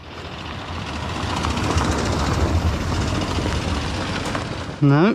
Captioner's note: tires crunching